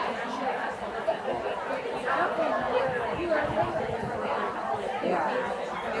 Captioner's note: people chattering continues